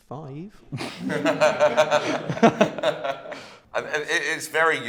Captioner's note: laughter